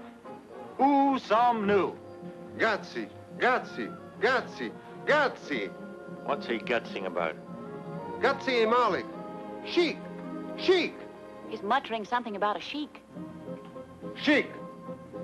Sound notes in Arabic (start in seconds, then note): 0.8 يتحدث بلغة أجنبية; 2.7 رجل يتحدث بلغة أجنبية; 8.2 رجل يتحدث بلغة أجنبية